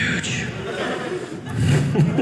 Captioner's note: audience laughing